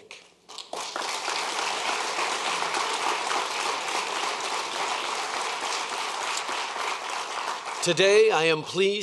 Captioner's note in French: Applaudissements